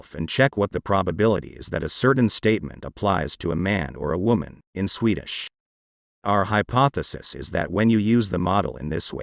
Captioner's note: in Swedish